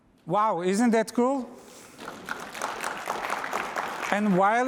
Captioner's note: applause